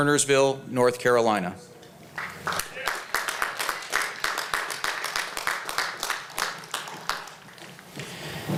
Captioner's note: applause